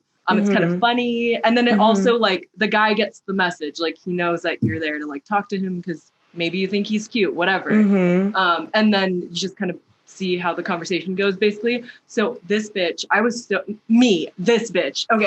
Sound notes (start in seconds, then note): 7.6 mhmm